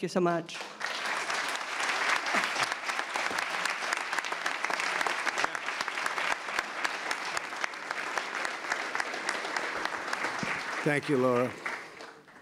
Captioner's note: applause